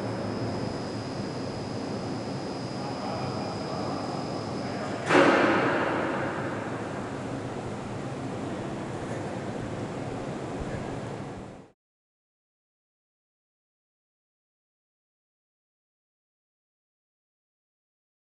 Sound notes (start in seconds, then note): 0.0 air whirring; 0.4 air whirring, people chattering in echoey room; 5.0 clank